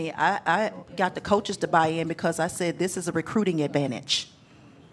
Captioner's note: none